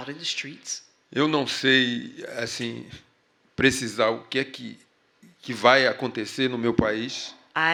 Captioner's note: speaking portuguese